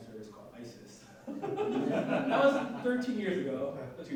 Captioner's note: audience laughing